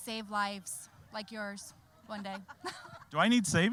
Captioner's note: all laughing